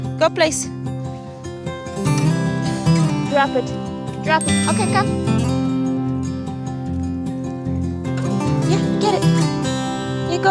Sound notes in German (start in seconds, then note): none